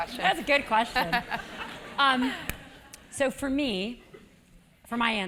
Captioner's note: laugh